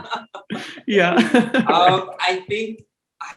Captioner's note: both laughing; laughs